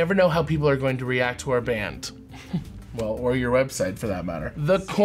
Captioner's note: chuckles